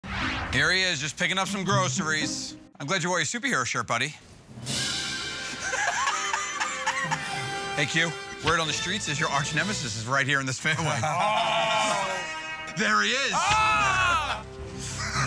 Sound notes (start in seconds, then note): 5.4 laughing; 14.9 laughter